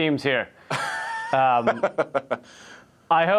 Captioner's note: laughs